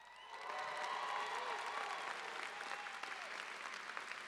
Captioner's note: applause